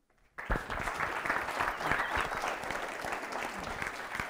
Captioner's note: applause